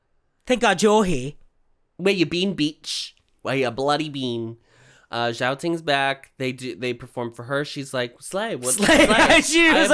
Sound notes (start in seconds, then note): 0.3 aussie accent; 8.6 laughing